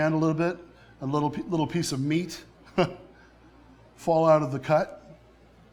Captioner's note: laughs